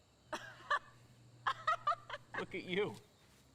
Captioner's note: Fox laughs